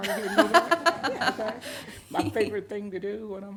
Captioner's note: everyone laughs